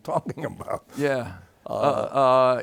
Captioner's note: chuckles